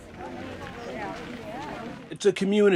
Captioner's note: people chatter